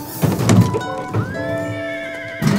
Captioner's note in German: Gelöste Musik; Wiehern